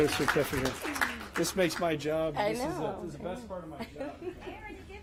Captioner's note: applause